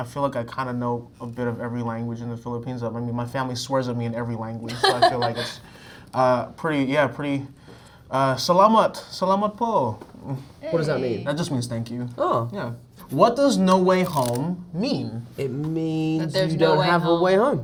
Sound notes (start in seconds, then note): 4.7 Zendaya laughing; 8.3 Jacob speaks Tagalog